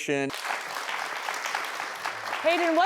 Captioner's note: applause